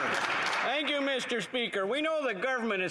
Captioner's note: applause